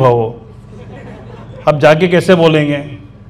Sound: audience laughing

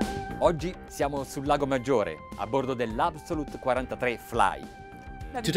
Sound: speaking in a foreign language

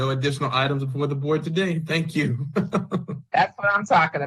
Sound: chuckles

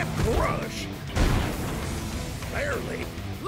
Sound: explosion

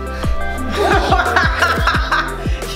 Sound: laughter

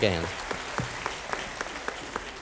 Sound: applause

